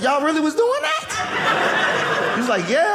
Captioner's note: audience laughing